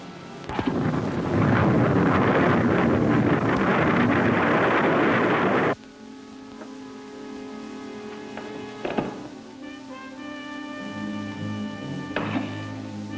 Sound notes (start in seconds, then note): 0.4 rocket rumbling; 5.7 tense instrumental music